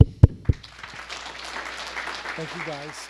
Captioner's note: applause